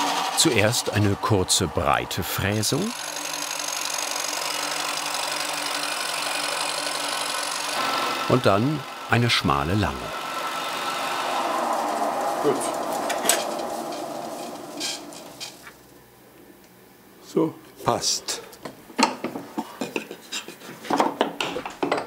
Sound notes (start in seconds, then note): 3.3 darker whirring